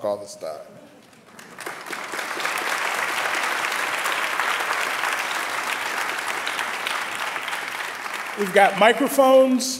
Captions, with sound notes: [ Applause ] We've got microphones.